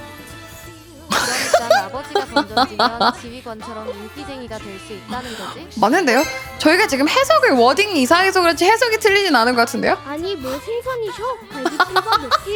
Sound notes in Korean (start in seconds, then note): 1.1 웃음